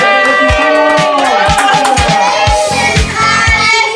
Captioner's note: cheering